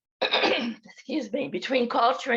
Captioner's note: clears throat